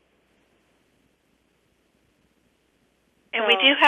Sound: pause

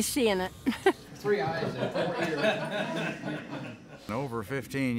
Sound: laughing and talking

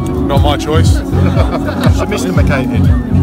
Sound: laughs

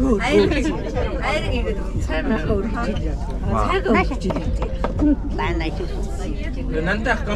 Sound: woman speaks mongolian

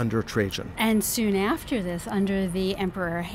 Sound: voiceover

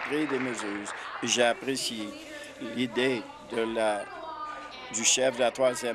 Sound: applause

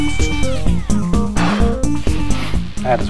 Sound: puffs air

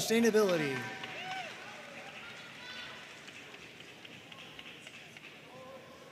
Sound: audience cheering and applauding

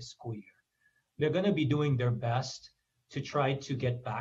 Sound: foreign language

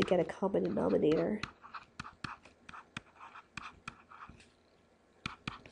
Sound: pen scribbling

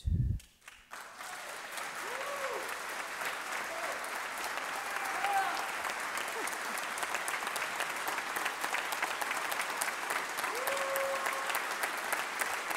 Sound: cheers and applause

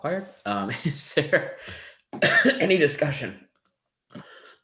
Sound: coughs

